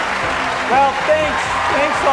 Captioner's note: cheers